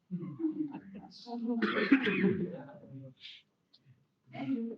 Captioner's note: laughter